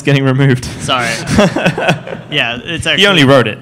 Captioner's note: laughter